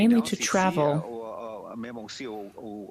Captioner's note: speaking FRENCH